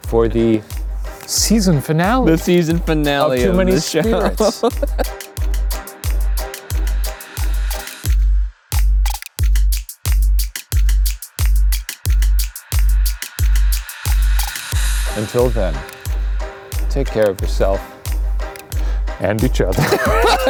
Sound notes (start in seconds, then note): 4.7 laughing; 5.6 upbeat music; 19.7 everyone laughing